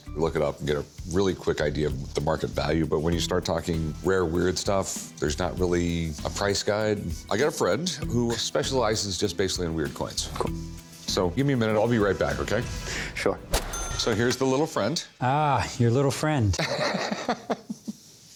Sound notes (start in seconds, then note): 12.9 ca-ching; 16.6 laughs